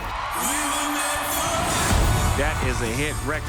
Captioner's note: audience cheers